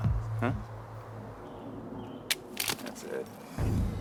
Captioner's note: gun clicks